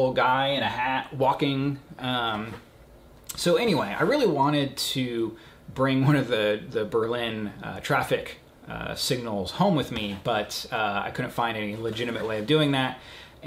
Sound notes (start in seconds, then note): none